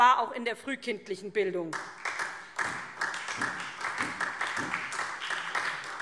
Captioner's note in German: Beifall